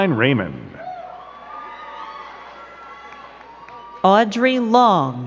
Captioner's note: crowd cheering and clapping